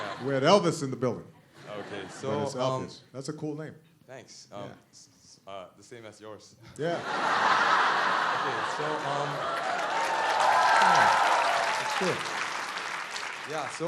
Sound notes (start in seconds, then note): 1.5 laughter; 6.8 laughter; 9.0 applause